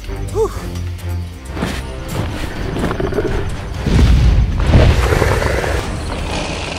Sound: growling

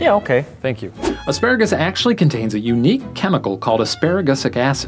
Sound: voiceover

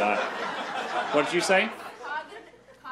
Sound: crowd laughs

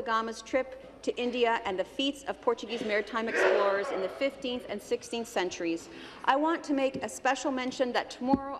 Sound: speaking Alternate Language

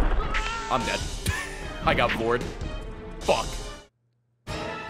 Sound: laughs

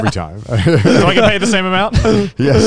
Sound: laughs

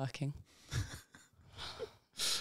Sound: laughing

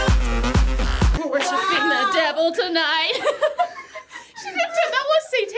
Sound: laughs

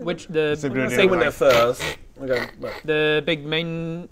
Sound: scratch scratch scratch scratch

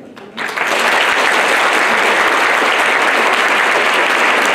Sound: applause

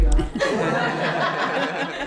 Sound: laughter

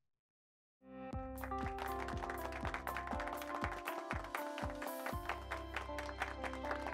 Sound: upbeat music; hands clapping

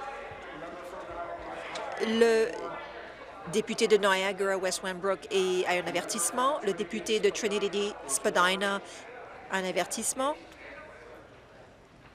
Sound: conversation din

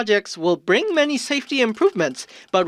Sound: nat pop - drilling sou nd by construction crew

